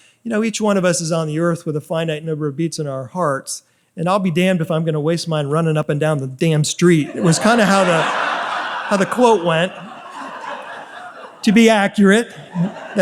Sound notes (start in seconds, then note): 7.0 audience laughs